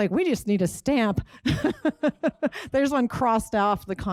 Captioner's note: laughs